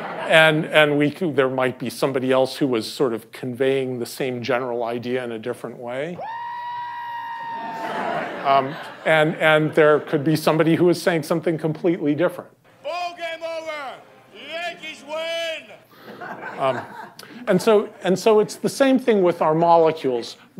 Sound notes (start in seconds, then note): 0.0 laughter; 7.6 laughter